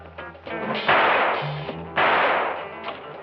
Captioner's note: gunshots